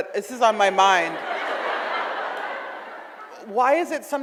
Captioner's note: audience laughs